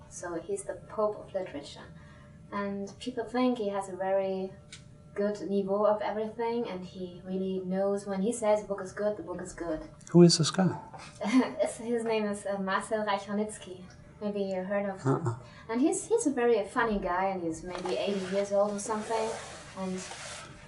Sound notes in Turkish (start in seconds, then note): 11.2 Kahkaha